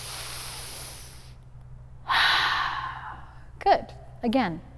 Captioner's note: deep breathing